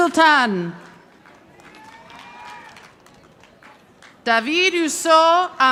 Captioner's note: audience applauding